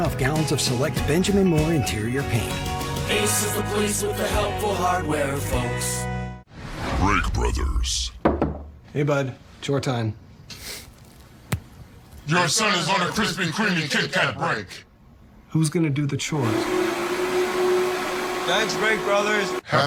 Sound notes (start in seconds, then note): 8.2 knock, knock; 16.4 vacuuming